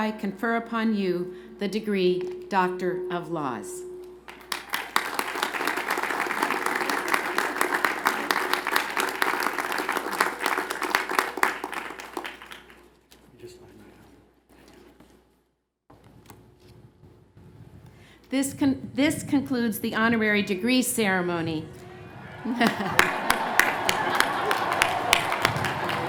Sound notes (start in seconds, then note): 11.2 applause